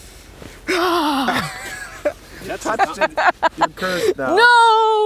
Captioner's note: crew laughs